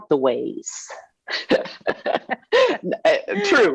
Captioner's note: laughing